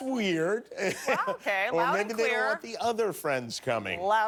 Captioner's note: laughter